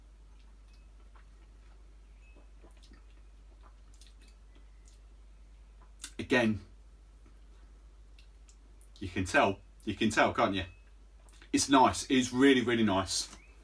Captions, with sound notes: (lips smacking) Again, you can tell, you can tell can't you? It's nice, it is really, really nice.